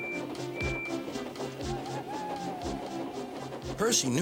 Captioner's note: whistles; owl hoots